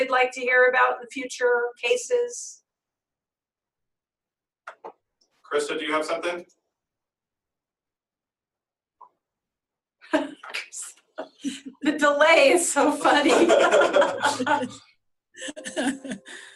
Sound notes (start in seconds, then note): 10.0 laughing; 12.9 laughter